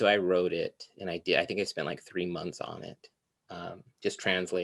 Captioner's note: none